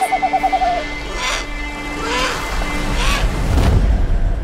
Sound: sqwerk, sqwerk, sqwerk

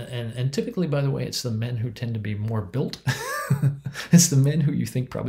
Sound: laughs

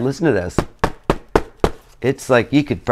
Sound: thump thump thump thump

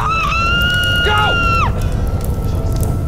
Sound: Sheila screaming

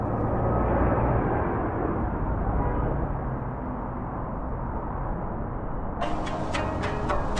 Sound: cars honking; cars whooshing

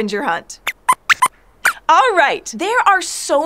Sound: squeaks squeaks

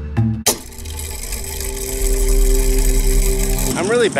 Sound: mechanism whirring

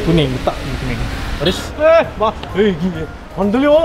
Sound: random honk on the road

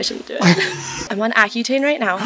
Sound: people laughing

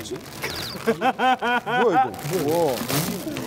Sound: bursts out in laughter

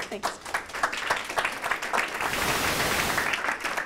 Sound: audience clapping

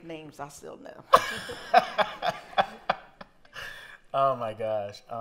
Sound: laughter

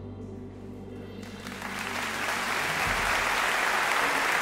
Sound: applause

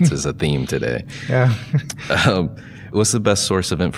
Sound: chuckling

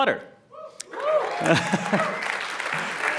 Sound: applause

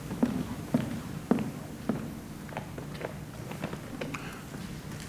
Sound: foot steps approaching

